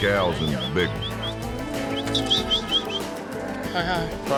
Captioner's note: whistling